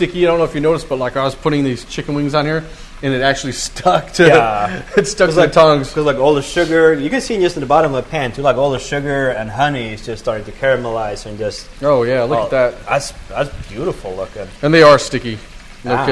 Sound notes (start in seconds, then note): 3.9 chuckles